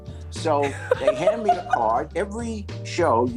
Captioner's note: laughs